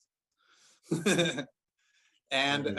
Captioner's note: laughter